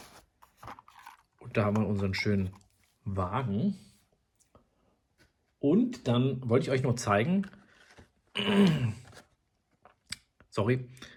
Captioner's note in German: lautes Räuspern